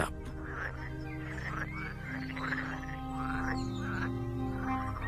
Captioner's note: frogs croaking